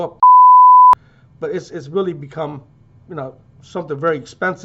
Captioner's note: beep